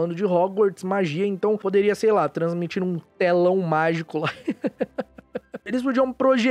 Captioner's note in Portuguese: risos